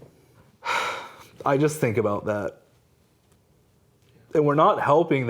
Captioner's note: sighing